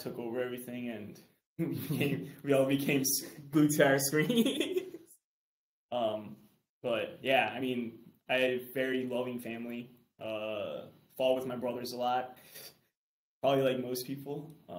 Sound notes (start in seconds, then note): 4.2 chuckles